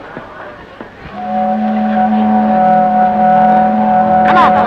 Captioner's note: ship horn